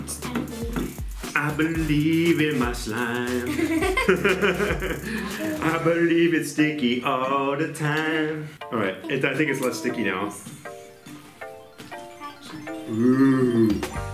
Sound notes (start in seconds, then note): 3.2 laughing